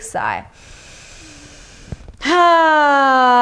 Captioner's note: inhales deeply